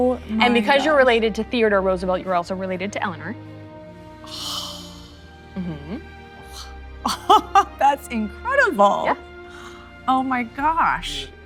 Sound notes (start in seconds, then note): 4.2 gasps; 7.0 laughs